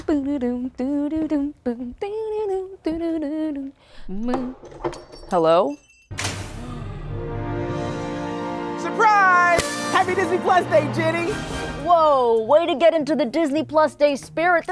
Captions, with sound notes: [CLATTERING] Hello? [GASPS] Surprise! Happy Disney+ Day, Jenny! Whoa, way to get into the Disney+ Day spirit.